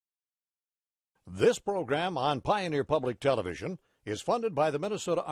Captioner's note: voiceover